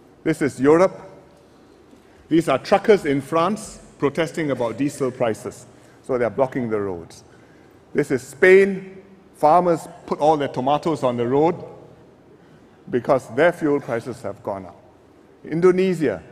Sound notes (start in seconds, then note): none